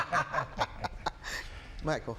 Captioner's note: laughs